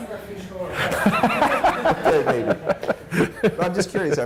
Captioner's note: laughter